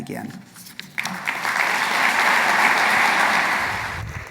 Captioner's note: audience applauding